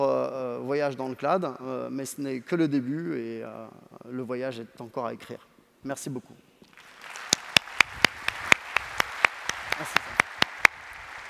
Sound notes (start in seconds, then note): 6.7 applause